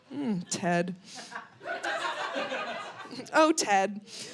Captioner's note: audience laughing